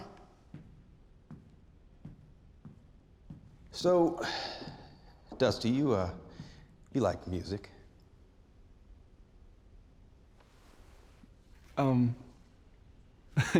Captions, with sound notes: [FOOTSTEPS] SO... [SIGHS] DUSTY, YOU UH... YOU LIKE MUSIC? UM... [CHUCKLES]